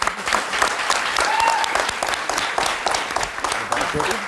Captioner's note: crowd applauding